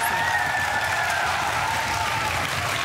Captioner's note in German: lauter Jubel